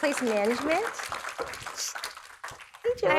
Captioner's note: audience applauds